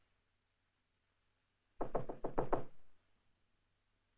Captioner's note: knock at door